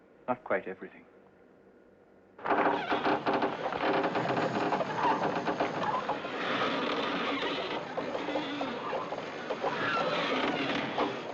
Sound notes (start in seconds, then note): 2.4 Cordas rangendo